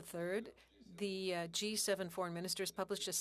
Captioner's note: speaking French